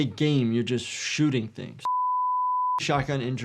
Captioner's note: signal beeps